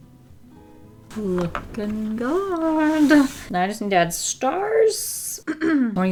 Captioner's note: clears throat